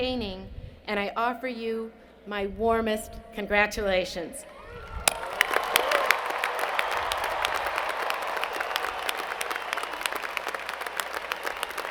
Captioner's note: cheers and Applause